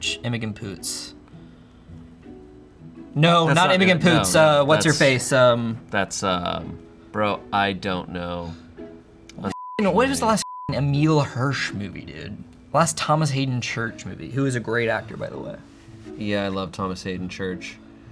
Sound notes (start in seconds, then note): 9.5 beep